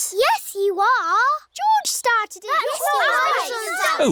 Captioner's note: all arguing